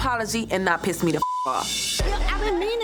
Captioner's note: beep